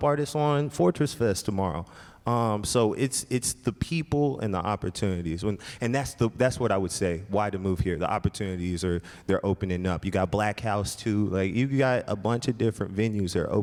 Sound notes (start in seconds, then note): none